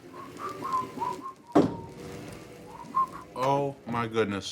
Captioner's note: Gordon whistles